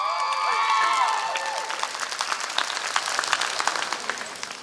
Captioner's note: applause